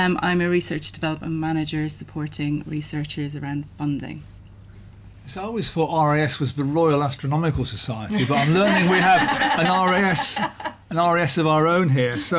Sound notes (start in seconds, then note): 8.1 laughter